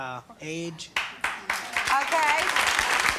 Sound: clapping

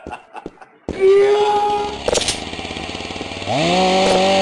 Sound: screaming and Chainsaw Starting

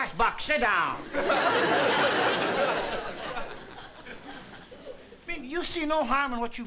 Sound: laughter

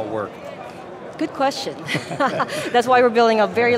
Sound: laughing

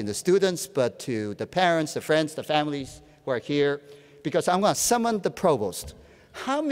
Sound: none

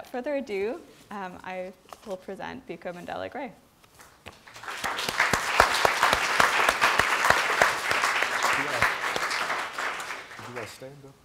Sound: applause

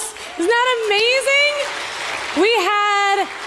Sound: congregation applauding

